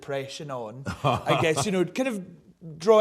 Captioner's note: laughs